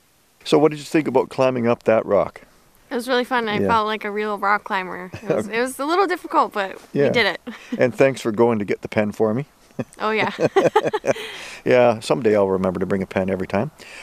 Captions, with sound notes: What did you think about climbing up that rock? -It was really fun. I felt like a real rock climber. It was a little difficult but, we did it. -Thanks for going to get the pen for me. -Oh, yeah. [chuckles] -Yeah someday I'll remember to bring a pen every time.